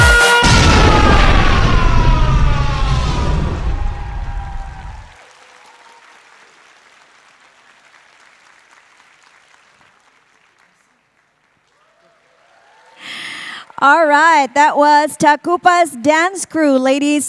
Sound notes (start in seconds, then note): 4.4 applause